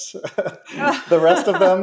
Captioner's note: laughing